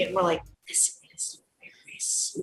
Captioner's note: whispering